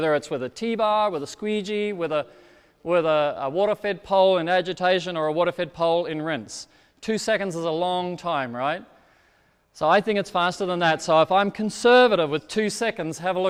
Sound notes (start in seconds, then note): none